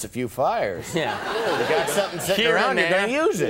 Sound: audience laughing

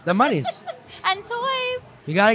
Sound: laughing

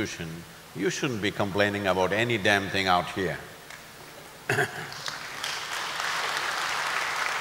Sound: applause

